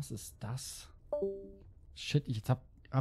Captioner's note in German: Discord leave sound